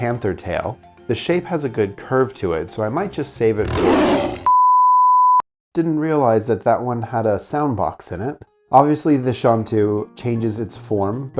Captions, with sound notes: panther tail, the shape has a good curve to it, so I might just save it *ROAR* Didn't realize that that one had a sound box in it. Obviously, the Xiantu changes its form,